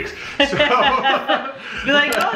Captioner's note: laughing